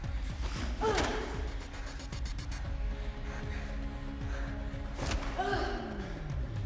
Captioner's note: tense music continues; blows thudding